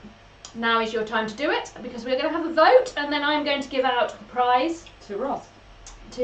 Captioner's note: none